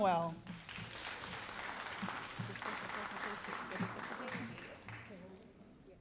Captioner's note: all applauding